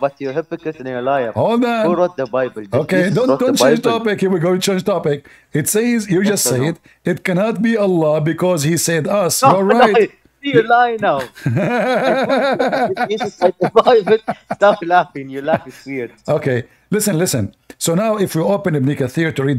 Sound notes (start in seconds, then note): 11.2 Ketawa